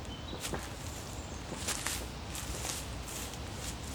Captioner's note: birds chirp